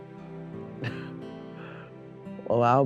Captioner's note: laughs